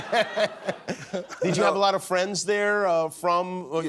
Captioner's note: laughter